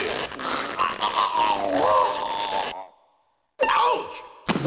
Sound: Courage groans

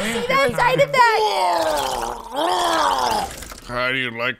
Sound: throw up noise

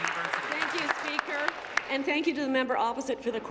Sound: applause

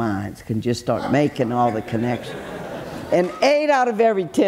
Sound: audience chuckles

